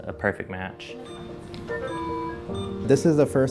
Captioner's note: machines beeping